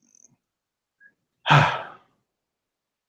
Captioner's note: sigh